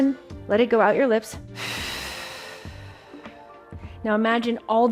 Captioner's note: exhales